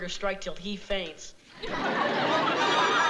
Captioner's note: audience laughing